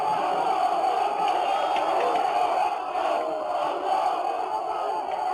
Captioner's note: army chanting in Arabic